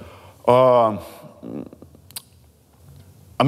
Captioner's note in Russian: задумчиво цокает языком